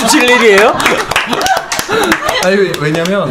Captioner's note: applause